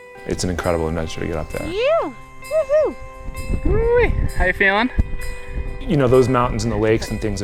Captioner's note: none